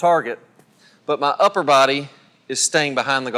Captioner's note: voiceover